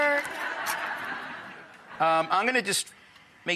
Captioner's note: audience laughs